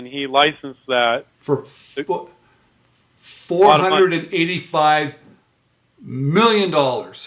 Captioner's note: laughs